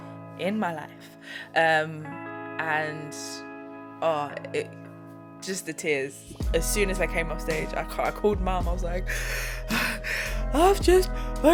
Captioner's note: imitates crying